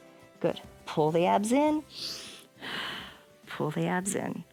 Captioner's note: inhales and exhales